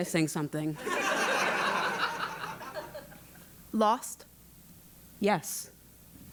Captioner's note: laugh